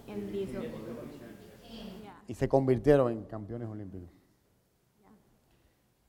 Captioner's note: speaking in Spanish